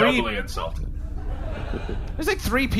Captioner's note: audience laughter